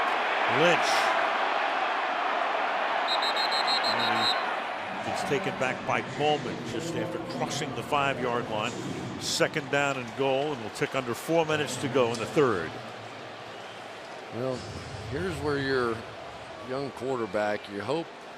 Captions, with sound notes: Lynch-- [whistle] And he's taken back by Bowman just after crossing the 5-yard line. Second down and goal. And the tick, under four minutes to go in the third. Well, here's where your young quarterback.